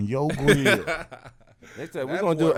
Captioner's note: Glen laughing